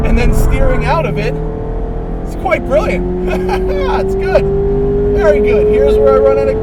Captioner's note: laughs